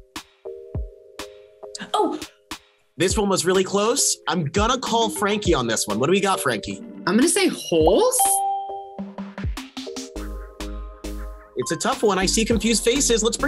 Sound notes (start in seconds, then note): 8.2 bell rings